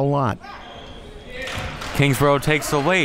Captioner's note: clapping